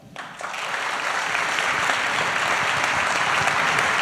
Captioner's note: applause